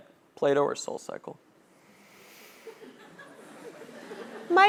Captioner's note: laugh